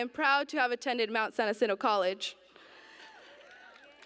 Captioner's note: cheers